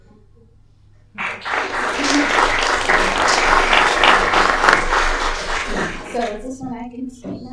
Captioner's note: applause